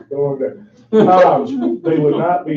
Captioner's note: laughing drowns out speaker